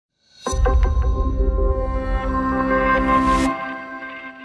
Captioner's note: incidental tone